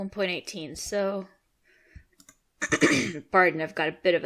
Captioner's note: throat clearing noises